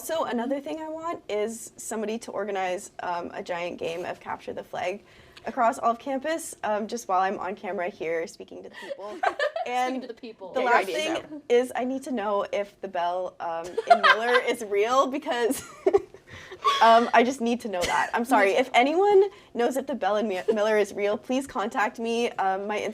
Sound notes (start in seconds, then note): 9.0 all laughing